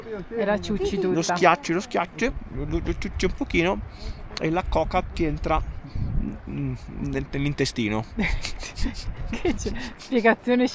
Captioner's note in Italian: risate